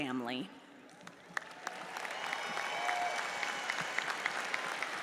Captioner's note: audience applauds